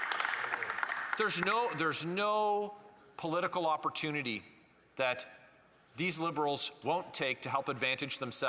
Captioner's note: some Applause